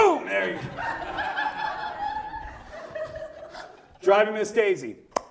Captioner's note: audience laughs